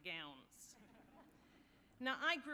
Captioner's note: audience laughing